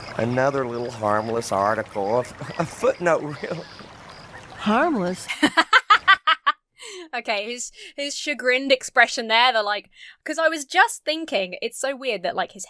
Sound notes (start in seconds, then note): 1.9 Carp laughs nervously; 5.2 laughs